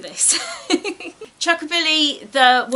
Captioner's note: laughs